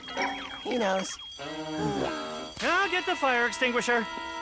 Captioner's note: sighs